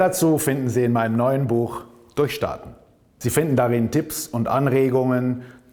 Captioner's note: in German